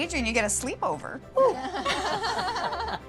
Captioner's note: laughter